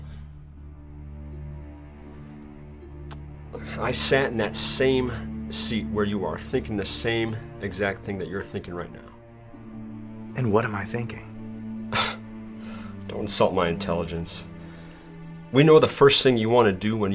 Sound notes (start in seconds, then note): 0.1 tense music; 12.1 chuckles